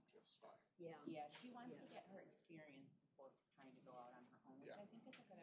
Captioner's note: indistinct chatter